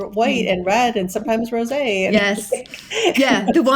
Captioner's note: laughing